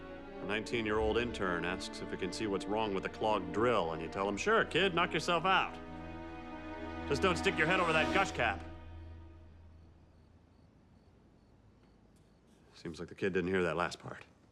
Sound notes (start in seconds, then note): 8.5 tense music ends; 8.8 crickets chirping